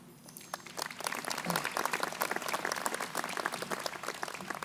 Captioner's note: crowd applauding